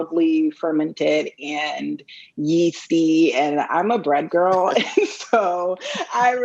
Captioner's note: laughs